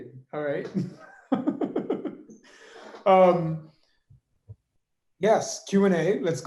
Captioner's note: laughs